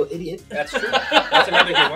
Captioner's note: laugh